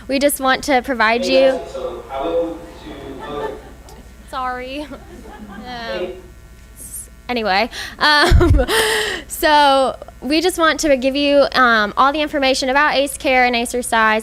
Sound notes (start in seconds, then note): 8.2 laughs